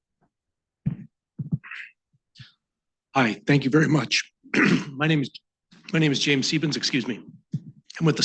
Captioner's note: coughs